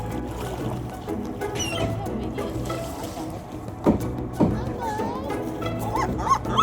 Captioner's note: sea lion breathing; chatter of people; seagull squawking